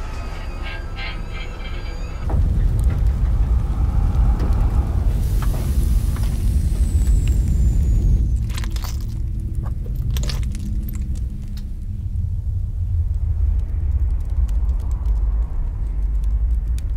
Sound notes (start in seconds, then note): 0.2 burning and whirring; 8.3 loud footsteps